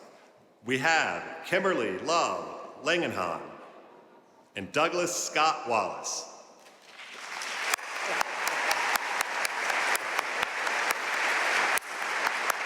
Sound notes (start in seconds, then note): 7.0 audience cheering and applauding